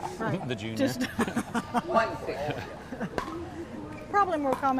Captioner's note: laughs